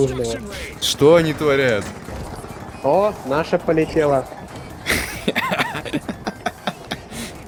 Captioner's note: laugh